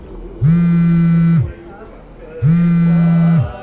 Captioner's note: mobile rings